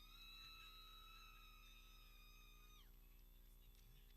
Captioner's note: people cheering